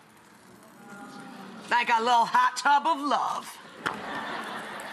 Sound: audience awes; audience laughs

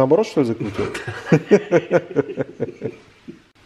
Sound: laughing

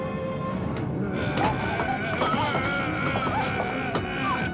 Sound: grunts

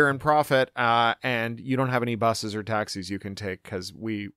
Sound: none

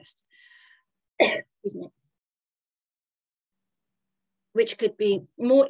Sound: coughs

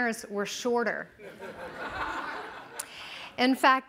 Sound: laughing

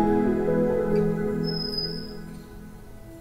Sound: door opening

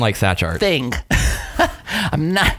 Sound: laughter

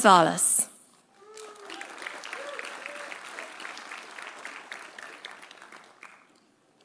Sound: audience applauding; audience cheering

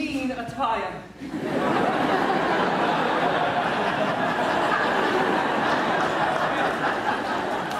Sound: audience laughs

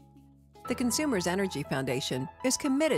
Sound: voiceover

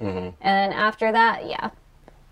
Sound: sounds of agreement

